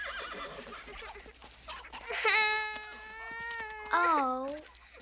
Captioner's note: girl crying